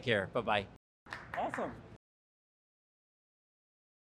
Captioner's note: clapping